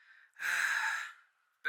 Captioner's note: sigh